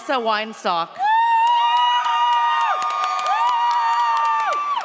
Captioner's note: audience cheers